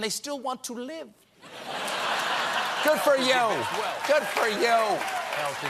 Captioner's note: laughter